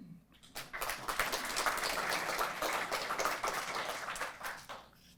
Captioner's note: applause